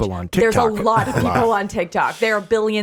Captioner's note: Wisdom chuckles